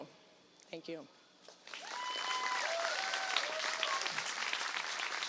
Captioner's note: applause